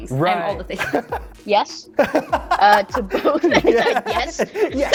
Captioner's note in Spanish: risas